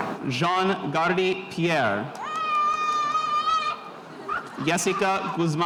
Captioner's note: spectator cheering